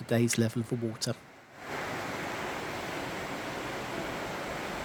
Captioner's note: sound of rushing water